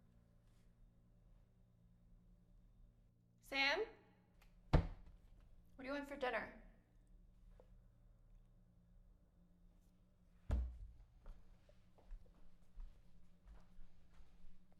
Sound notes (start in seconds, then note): none